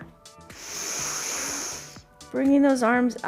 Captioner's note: inhales